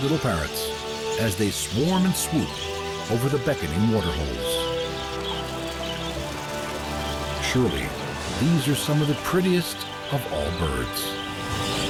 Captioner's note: birds chirping